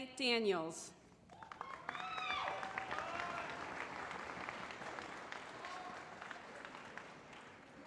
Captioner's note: applause